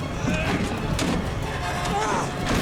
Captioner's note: grunting